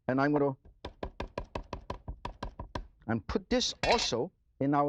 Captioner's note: chopping